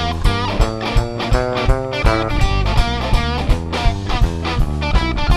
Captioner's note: none